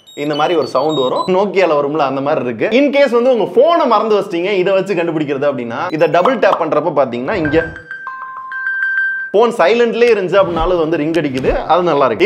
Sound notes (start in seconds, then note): 7.4 ring tone